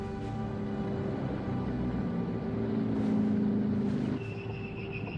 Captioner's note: tense music; engine roaring; brakes screeching